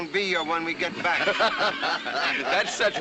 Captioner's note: laughter